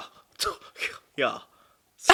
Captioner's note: scoffing